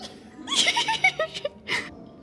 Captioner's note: giggle